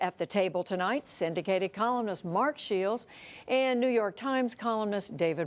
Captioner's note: none